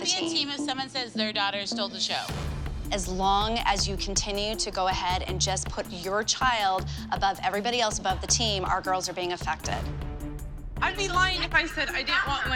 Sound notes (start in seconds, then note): none